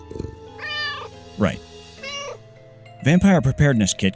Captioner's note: meow